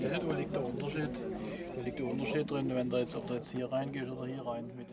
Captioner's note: audience chatting